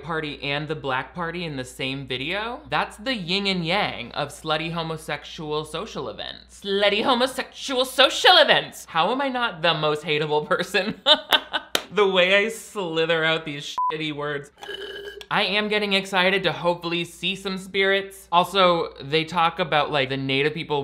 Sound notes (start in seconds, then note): 13.8 beep